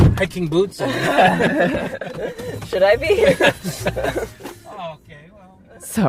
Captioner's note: laughs